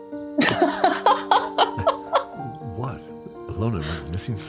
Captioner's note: laughing